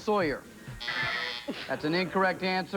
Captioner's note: buzzer